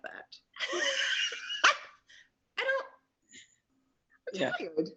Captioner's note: laughs